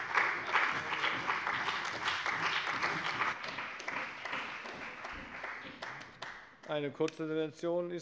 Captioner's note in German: Beifall bei dem BÜNDNIS 90/DIE GRÜNEN und der CDU